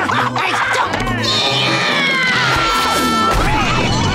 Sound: screaming; laughing

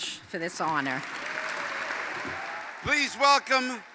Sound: applause

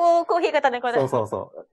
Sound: laughs

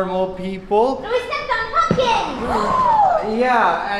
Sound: town residents audibly gasp in shock

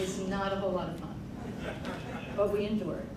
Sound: crowd laughing

